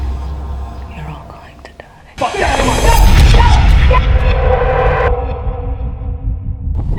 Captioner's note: Jackson and Moli yell